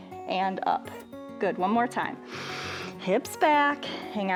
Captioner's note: inhales